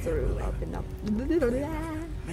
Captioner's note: aka, tongue untwisting noise